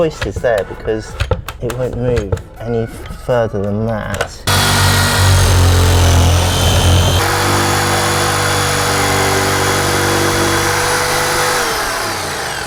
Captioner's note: sawing noise